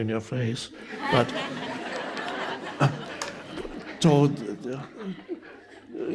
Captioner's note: audience members laughing